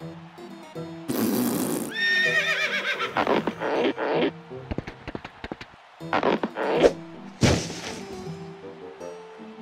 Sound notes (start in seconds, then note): 1.8 neighing; 5.6 falling noise; 8.6 distant cheers and applause